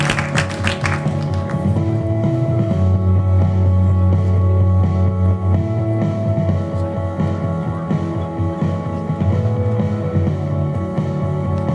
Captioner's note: applause